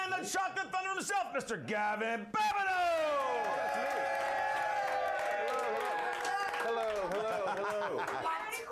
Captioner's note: audience cheering